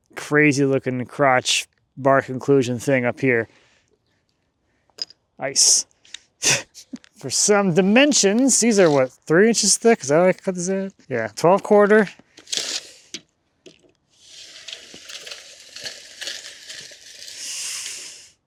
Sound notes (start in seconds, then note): 5.8 chuckling; 14.2 measuring tape rattling